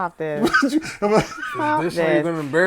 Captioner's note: laughter